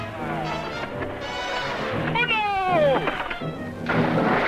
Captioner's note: man speaking in Spanish; water splashing